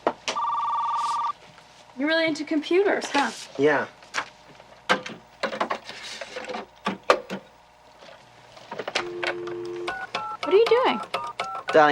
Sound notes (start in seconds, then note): 0.3 phone ringing; 8.9 dialing